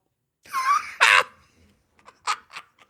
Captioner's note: laughing